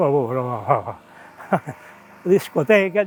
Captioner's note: laughs